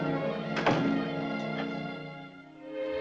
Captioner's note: door thuds